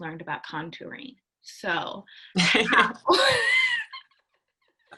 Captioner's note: laughs